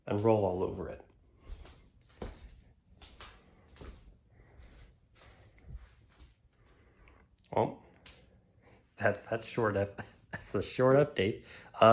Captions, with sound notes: and roll all over it. [ Footsteps ] Well -- That's that's short up -- heh -- that's a short update.